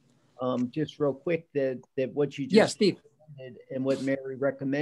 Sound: murmurs

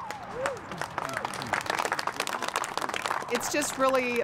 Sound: applause

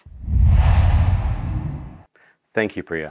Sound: logo swooshes

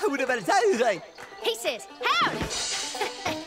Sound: speaking gibberish; chuckles

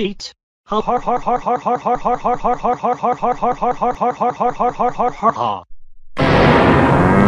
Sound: laughing

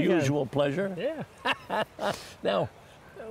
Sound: laughs

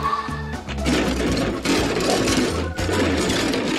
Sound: crashing rocks

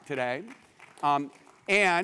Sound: applause

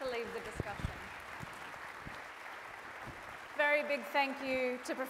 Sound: audience applauds

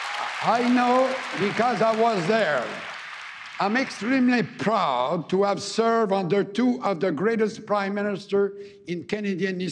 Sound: cheering and APPLAUSE

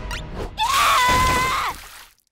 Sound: screaming

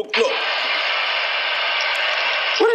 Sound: phone noise

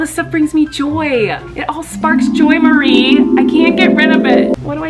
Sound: intensifying sparkling

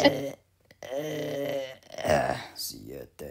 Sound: Gruñe del cansancio

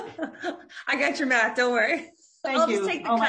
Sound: laughs

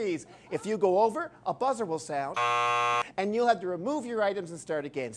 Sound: buzzer

